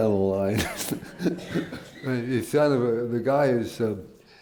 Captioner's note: laughs